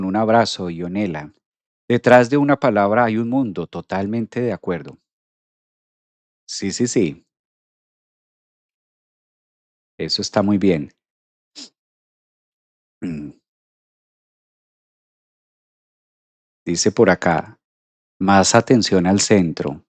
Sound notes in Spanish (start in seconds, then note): 13.0 carraspeo